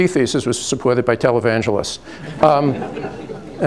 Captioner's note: light laughter